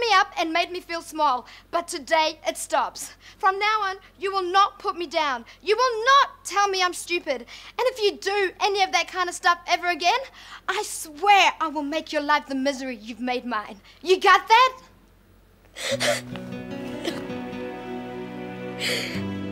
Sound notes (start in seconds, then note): 15.7 sobbing